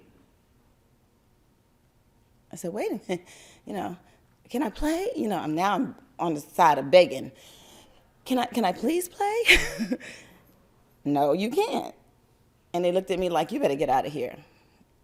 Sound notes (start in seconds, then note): 11.0 laugther